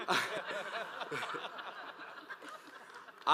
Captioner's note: audience laughs